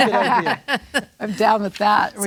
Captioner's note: laughs